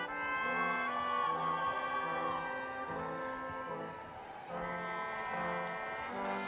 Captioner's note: crowd cheering